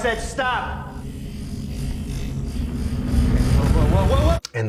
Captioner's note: electronic buzzing